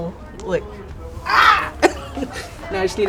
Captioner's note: eagle screech